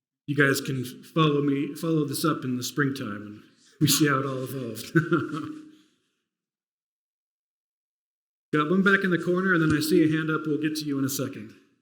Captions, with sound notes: You guys can follow this up in the spring time, and we'll see how it all evolves. [CHUCKLES] Got one back in the corner, and then I see a hand up. We'll get to you in a second.